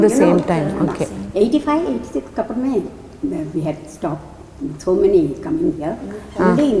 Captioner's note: in Tamil